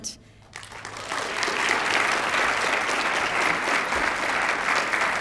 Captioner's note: applause